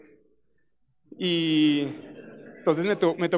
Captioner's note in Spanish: Risas